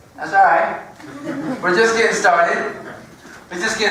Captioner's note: laugh